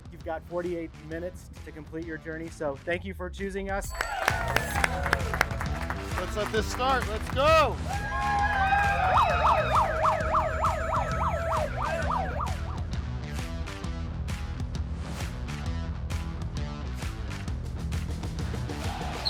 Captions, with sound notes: You've got 48 minutes to complete your journey, so thank you for choosing us. [group cheering] Let's let this start. Let's go. -[group cheering] -[siren wailing] [energetic music]